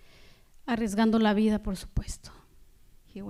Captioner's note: speaking spanish